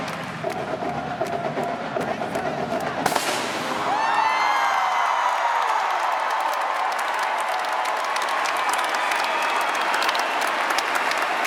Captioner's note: cheers and applause